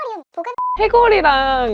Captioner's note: beep